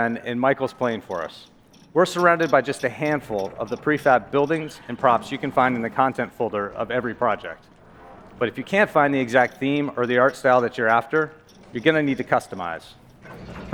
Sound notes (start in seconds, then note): none